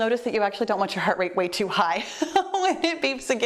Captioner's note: laughing